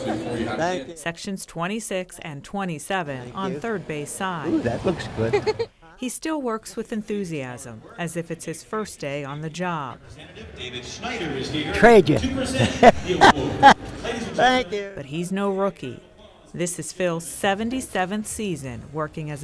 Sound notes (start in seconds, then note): 5.2 child laughing; 12.0 laughing